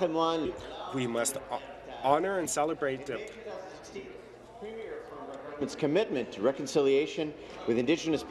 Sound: speaking in French

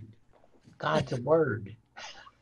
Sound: chuckling

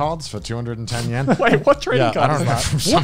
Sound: laughs

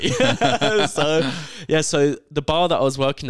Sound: laughs

